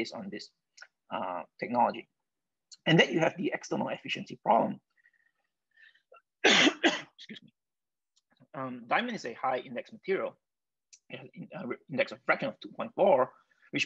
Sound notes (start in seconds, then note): 6.4 coughs